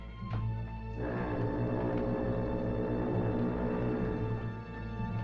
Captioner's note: foghorn Blows